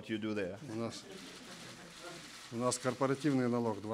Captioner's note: laughter